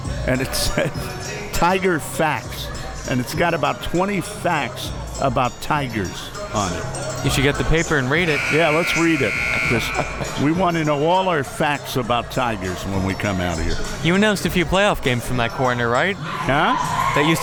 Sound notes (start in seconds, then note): 9.0 laughs